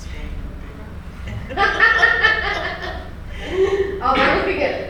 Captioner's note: two female audience members laughing